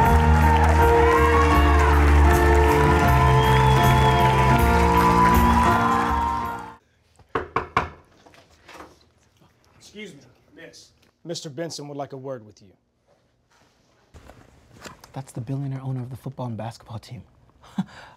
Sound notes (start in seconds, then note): 7.3 door knocking; 17.9 laughs